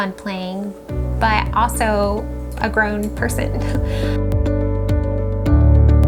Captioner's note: laughs